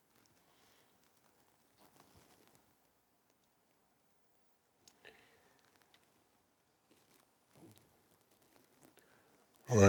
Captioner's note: silence